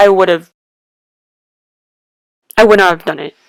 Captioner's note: awkward silence